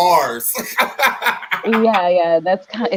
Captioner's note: laughing